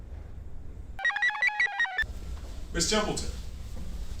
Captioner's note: computer chirps